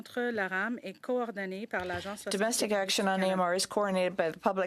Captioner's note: speaking in French